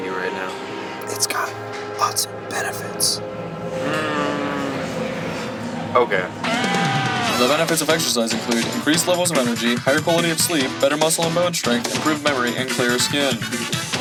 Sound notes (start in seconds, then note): 1.2 ghostly Voice; 6.8 rock music